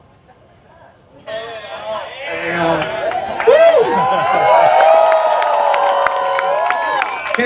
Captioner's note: applause